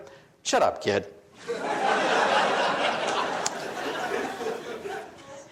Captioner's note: audience laughs